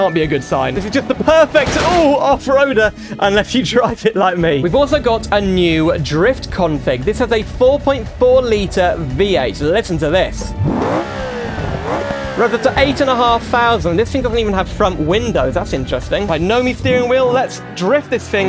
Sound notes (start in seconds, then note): 9.8 V8 Engine Revs